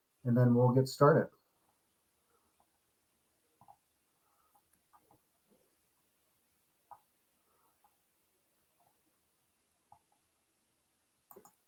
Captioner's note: silence